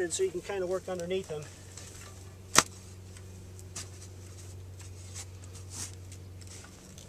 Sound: digging sounds

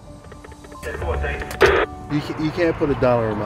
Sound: radio

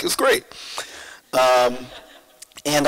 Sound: audience laughs

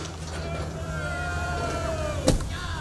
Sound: crowd

